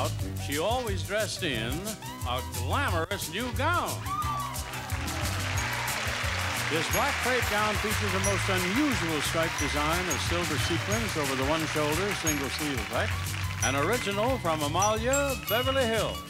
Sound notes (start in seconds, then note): 4.2 audience applauding